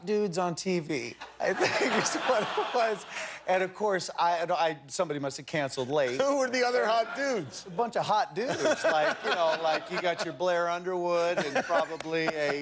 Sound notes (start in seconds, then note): 3.8 laughter